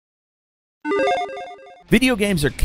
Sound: electronic chiming

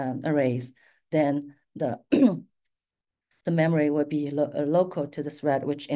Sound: clears throat

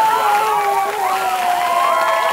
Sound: screams in anguish; audience cheers and applause; drowned out wails

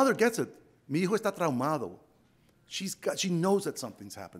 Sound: speaks Spanish

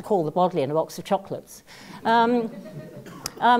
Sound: laugh

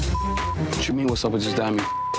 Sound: beeps

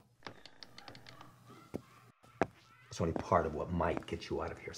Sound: distant cackling

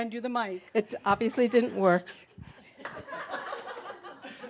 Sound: some chuckles

